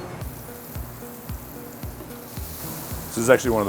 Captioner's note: leeks sizzling